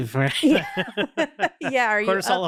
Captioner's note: laughing